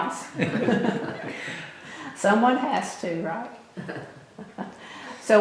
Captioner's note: laughter